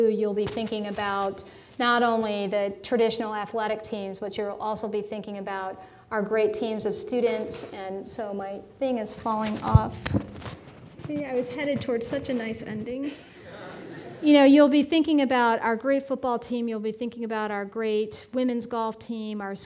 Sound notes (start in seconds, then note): 13.3 audience laughing